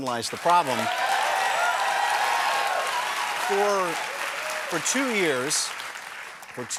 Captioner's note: applause